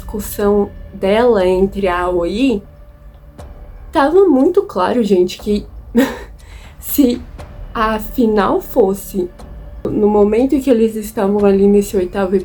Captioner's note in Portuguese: risos